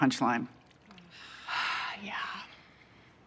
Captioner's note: sighs